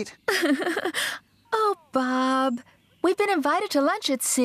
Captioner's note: giggles